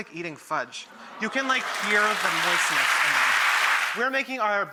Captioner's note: audience applauds